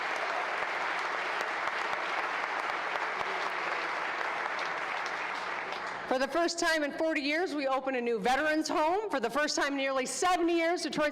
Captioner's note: applause